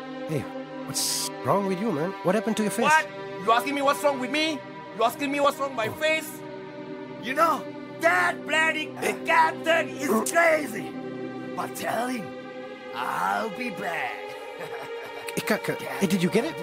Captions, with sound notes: Hey, what's wrong with you man? What happened to your face? - What? You asking me what's wrong with me? You asking me what's wrong with my face? You know, that bloody captain is crazy. But tell him I'll be back. (chuckles) - Hey, did you get it?